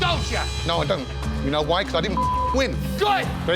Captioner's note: beep